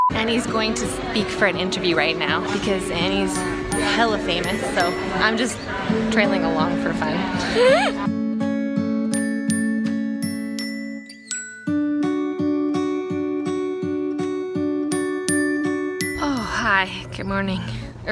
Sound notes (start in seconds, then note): 7.4 laughs; 8.2 light music